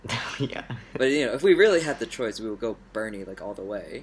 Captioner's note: laughs